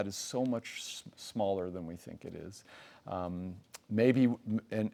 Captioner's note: lips smack